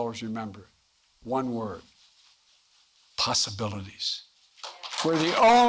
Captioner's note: applause